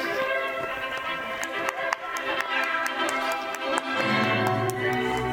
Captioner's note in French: Applaudissements